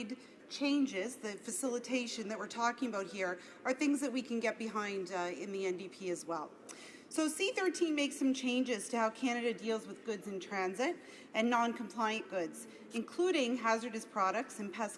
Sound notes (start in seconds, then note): none